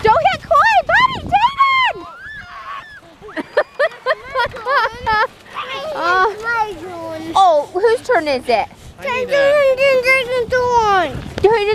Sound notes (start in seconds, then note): 2.5 yelling; 2.6 laughing